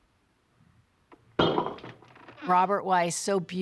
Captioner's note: bottle clunks